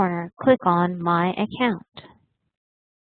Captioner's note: Arabic